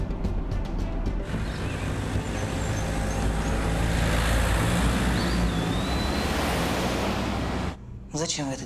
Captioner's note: car sounds